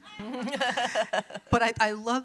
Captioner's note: laughs